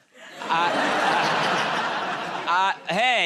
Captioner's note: laughter